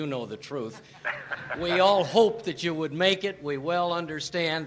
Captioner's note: laughter